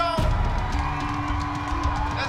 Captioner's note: cheering